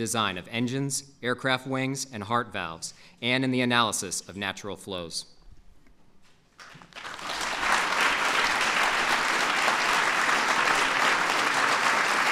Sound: applause

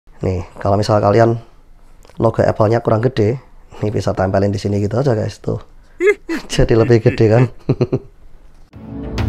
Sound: chuckles

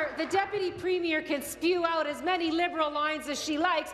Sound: applause

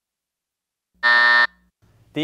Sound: buzzer buzzes

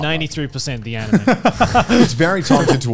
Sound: laughs

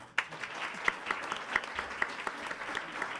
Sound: applause

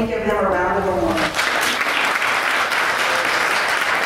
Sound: applause

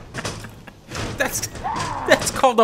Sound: chuckles; laughing

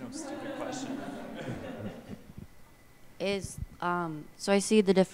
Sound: audience laughs

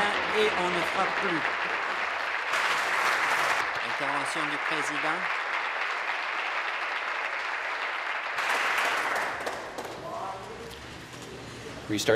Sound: applause

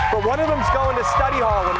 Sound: cheers

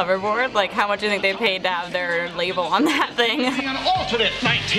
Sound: laughs

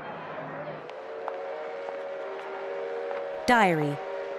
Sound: train whistles

